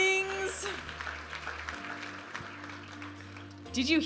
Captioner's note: audience applauding; vibrant music